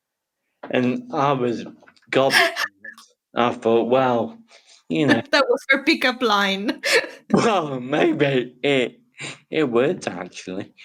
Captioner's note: laughing